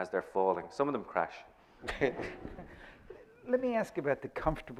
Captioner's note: chuckles